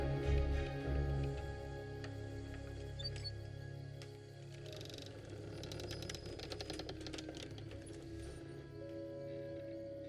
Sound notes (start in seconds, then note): 4.7 door creaking; 7.0 suspenseful music